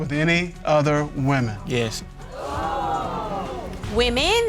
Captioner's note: audience exclaims